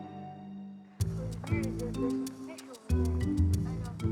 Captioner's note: tourists chattering; bright music